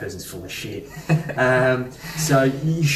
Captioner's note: laughing